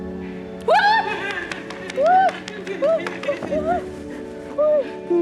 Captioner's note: happy yelling; sobbing